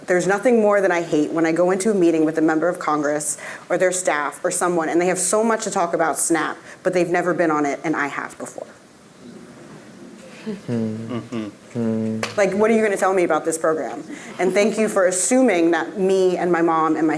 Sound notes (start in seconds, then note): 10.2 group agreeing